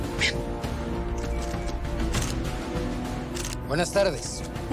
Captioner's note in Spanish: Clic de las cámaras